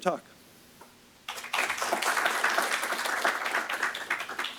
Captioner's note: applause